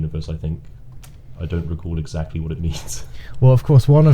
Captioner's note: chuckling